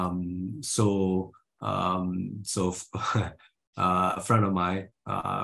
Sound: he chuckles

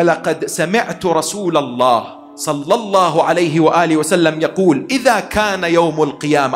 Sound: Arabic

